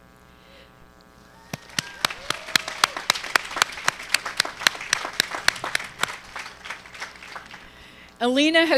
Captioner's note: applause